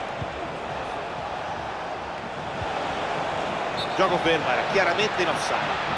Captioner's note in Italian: Applauso; Applauso